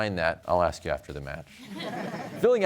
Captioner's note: laughter